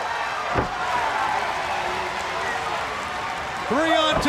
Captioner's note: crowd chatter